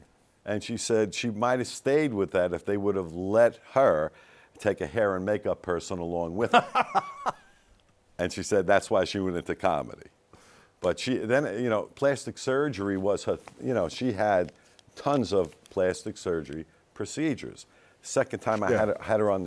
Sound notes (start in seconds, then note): 6.4 laughs